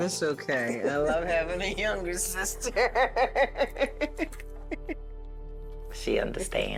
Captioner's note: laughing